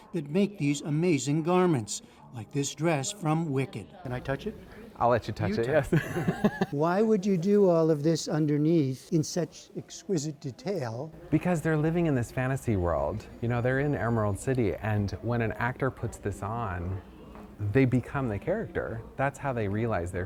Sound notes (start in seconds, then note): 5.8 laughter